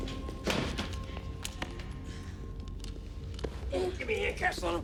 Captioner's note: suspenseful music continues; guns thud